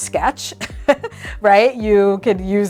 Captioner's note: chuckles